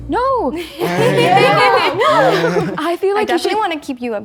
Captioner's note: all laughing